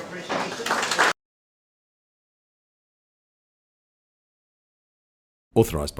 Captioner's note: audience applauding